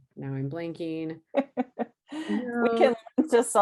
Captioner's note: laughs